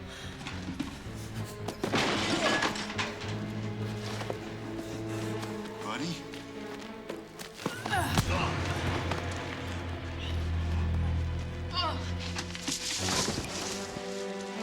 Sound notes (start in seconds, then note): 1.6 clattering; 7.9 Paris grunts